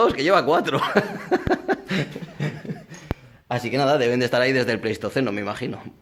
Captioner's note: laughs